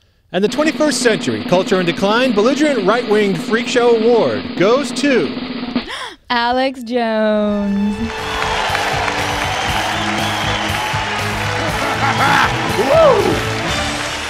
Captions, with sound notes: And the 21st century Culture in Decline Belligerent Right-Wing Freak Show Award goes to [drum roll] Alex Jones! [Applause] Hoo!